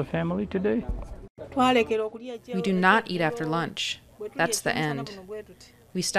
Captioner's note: through translator